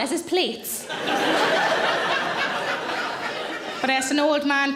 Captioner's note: audience laughing